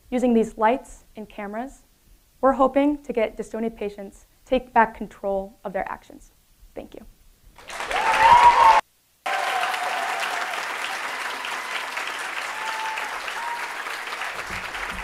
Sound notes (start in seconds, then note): 9.2 audience applauding and cheering